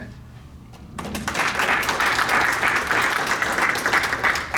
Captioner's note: audience applauding